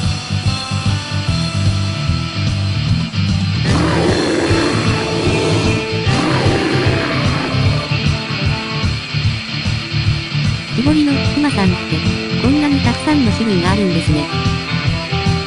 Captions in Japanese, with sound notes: [クマの叫び声] 木彫りのクマさんって、こんなにたくさんの種類があるんですね。